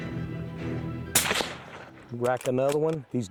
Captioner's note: gunshot fires